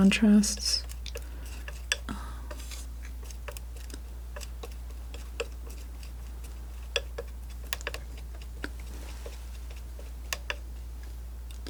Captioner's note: tapping